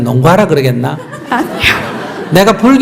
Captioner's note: audience Laughter